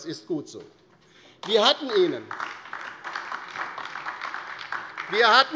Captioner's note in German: Beifall